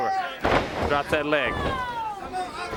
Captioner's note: crowd chatter